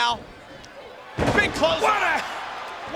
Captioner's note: body thudding